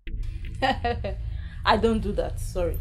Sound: laugh

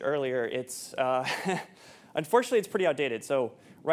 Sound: chuckles

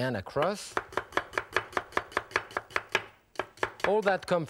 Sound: knife chops

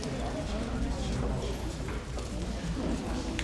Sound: chattering

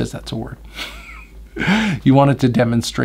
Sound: laughs

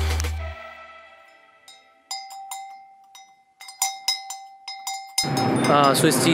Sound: cow bells ringing

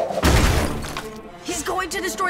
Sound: crash

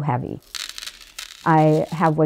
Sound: beads rattle on plate

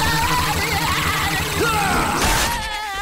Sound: screaming; grunting

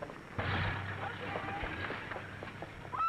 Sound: engine turns over

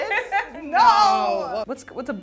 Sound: laughs

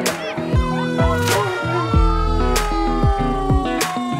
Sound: laughs; siren

